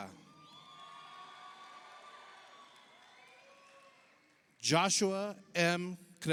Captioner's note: audience cheers; audience applauds